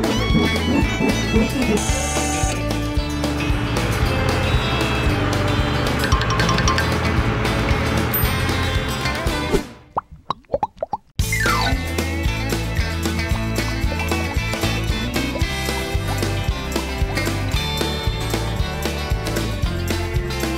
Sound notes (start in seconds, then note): 0.1 wiping; 3.7 dryer blowing; 6.2 dull chimes; 8.3 bell chimes; 9.9 suds popping; 11.3 xylophone chimes; 12.8 upbeat music